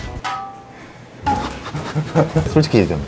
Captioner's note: laughing to make it less awkward